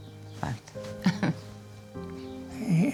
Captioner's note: chuckles softly